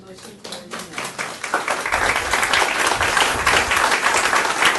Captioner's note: audience applauding